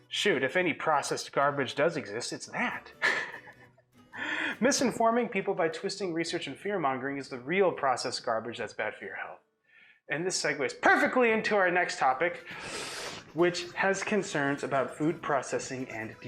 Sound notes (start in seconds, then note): 2.6 laughs